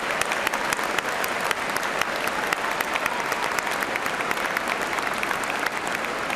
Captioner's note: cheers and applause